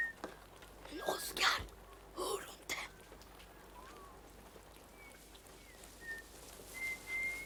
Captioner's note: somebody whistles